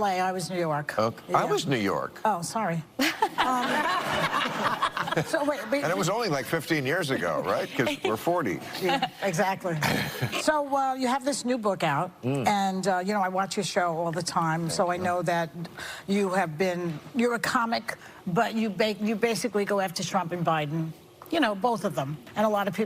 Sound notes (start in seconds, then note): 7.0 laughter